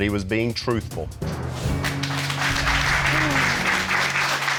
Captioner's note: applause